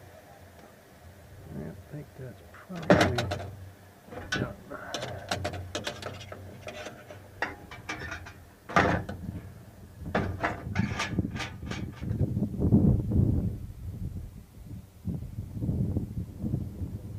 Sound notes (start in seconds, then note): 4.0 kettles clanking sounds; 10.2 light wind sound